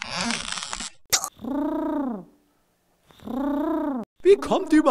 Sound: pigeon coos

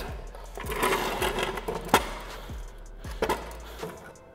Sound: chairs scrapping

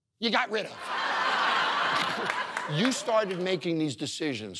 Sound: audience laughing

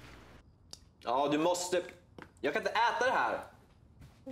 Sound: Hartley speaks in Swedish

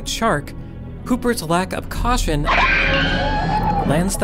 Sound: Hooper screams

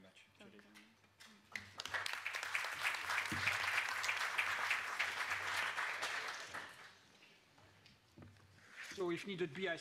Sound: applause

